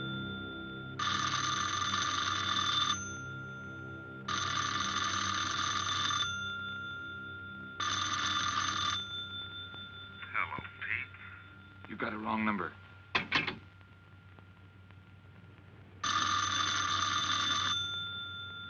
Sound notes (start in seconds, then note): 10.4 on phone